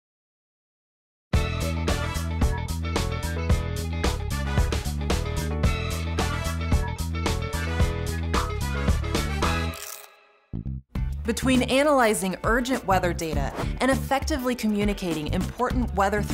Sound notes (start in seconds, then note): 1.4 upbeat Music; 9.6 crunch sound